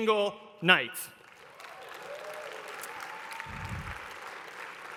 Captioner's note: clapping